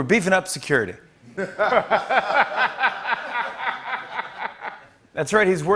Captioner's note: laughter